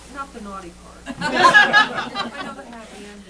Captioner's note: laughter